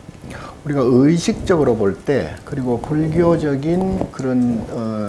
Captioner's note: speaking Korean